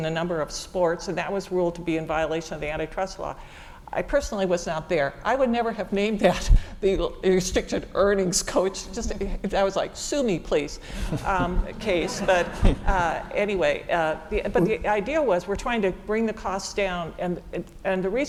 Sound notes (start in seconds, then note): 11.0 laugh